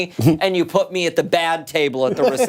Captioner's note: laughter